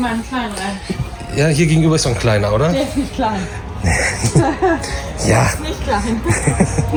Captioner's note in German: gelächter